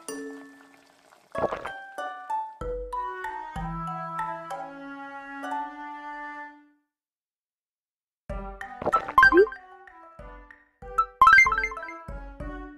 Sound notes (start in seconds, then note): 1.3 drinking; 8.7 drinking; 11.0 confirmation sound